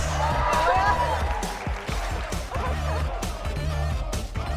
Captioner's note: applause